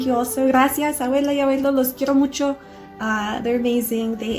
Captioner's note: speaking in a foreign language